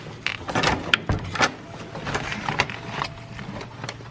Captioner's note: door clatters